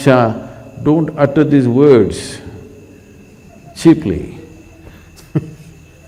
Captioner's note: laughs